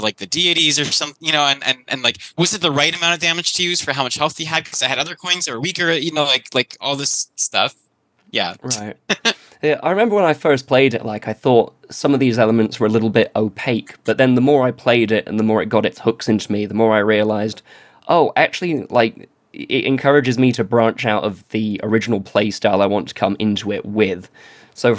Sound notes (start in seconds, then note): 8.2 laughs